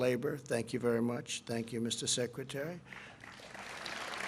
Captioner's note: applause